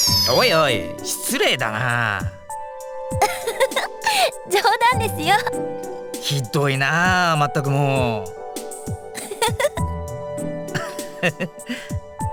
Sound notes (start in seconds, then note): 3.2 chuckle; 10.7 chuckle